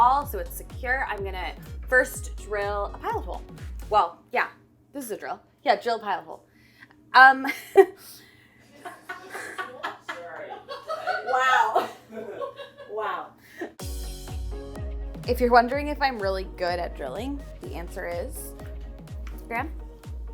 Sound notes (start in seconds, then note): 6.8 laughing; 8.7 all laughing